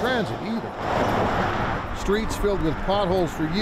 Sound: traffic whooshes

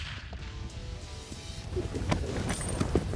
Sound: gunshot; wind gusting

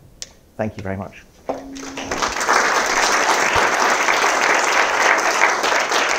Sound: applause

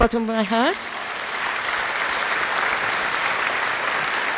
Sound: applause

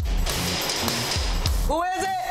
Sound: knocking on screen door

